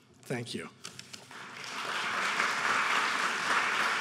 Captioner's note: applauding